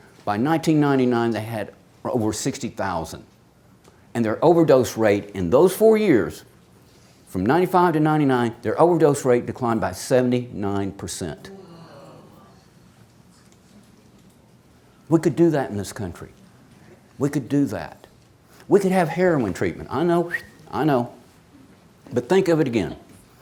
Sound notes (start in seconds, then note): 11.6 audience exclaims